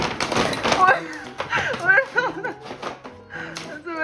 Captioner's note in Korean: 우당탕탕